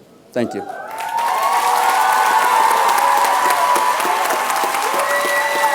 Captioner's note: applause